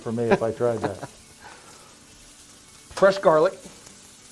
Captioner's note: laughing